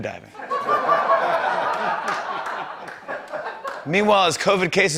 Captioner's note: laughter